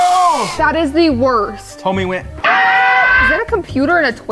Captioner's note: none